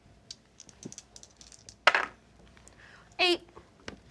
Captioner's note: dice rattle then clatter